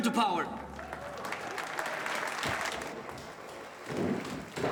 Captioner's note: audience cheers and applauds; heels clack